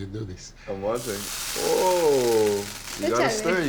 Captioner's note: sizzling